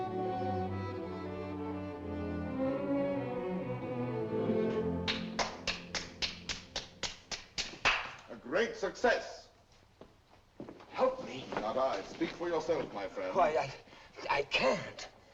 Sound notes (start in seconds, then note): 5.0 applause